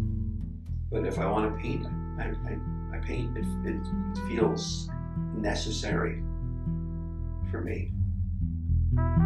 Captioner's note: voiceover